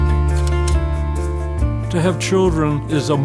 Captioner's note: slide clicks; upbeat guitar music; slide clicks